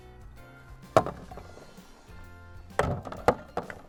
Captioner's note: thud